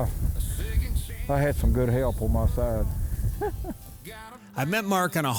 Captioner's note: laughs